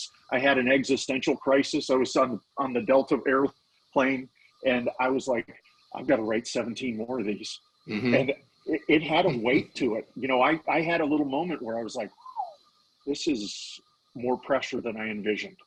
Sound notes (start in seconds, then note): 8.7 laughing; 12.1 whistling